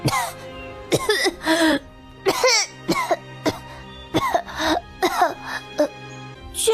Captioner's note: coughs repeatedly